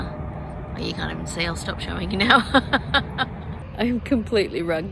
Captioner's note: laughs